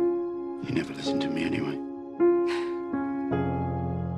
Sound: phryne laughs

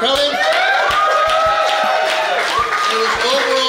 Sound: crowd cheering

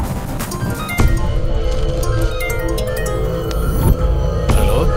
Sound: phone rings

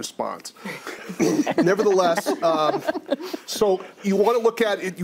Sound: others laugh

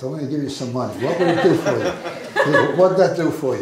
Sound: audience laughs

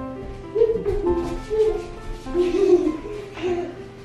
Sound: laughing

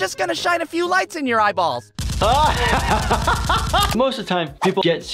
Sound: laughter; camera clicks

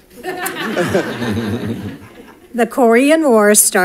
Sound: congregation laughs

